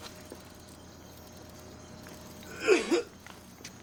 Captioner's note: coughing